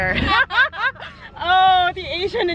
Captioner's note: laughs